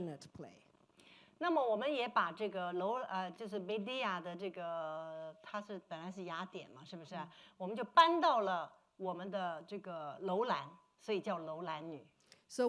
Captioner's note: speaking Mandarin